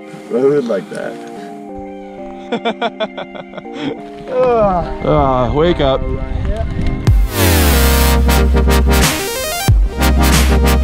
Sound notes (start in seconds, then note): 2.4 laughing; 4.6 grunting